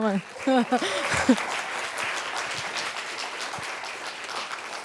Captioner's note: applause